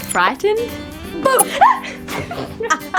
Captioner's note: haha